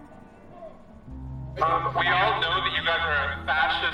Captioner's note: man on bullhorn